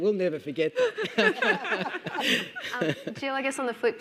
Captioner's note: group laughing